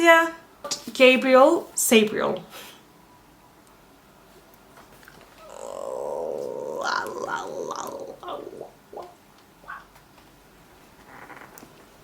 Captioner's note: makes weird noises